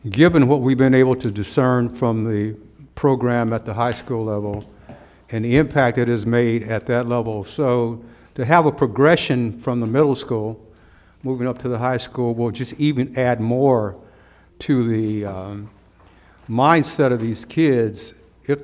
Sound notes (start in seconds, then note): none